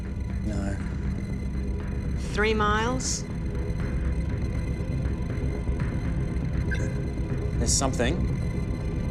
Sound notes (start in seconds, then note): 6.5 radar bleeping